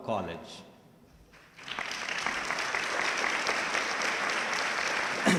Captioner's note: audience clapping